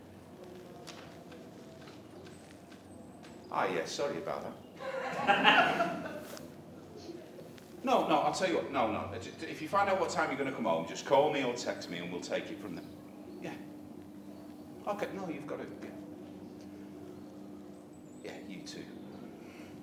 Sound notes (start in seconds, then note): 4.8 laughter